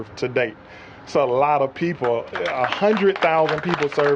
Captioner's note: applause